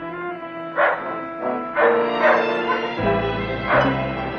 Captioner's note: dog barking